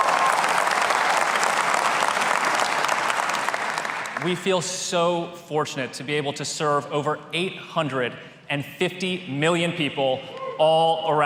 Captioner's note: applause